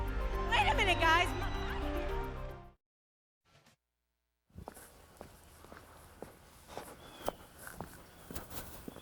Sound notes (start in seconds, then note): 4.5 feet shuffling